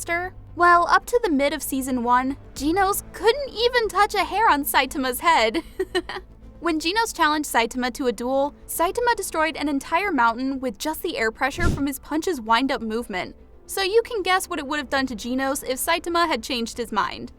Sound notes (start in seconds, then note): 5.6 chuckle